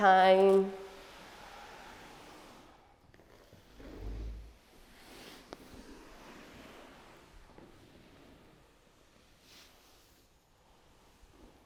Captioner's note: rustling sounds